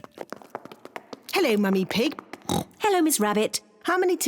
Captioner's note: oinks